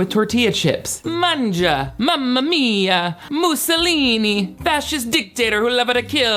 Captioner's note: speaking Italian